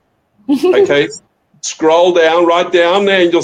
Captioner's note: laughing